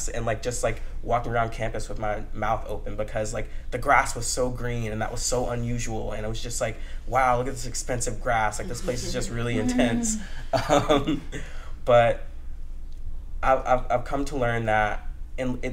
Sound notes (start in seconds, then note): 10.5 laughter